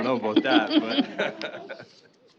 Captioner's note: laughter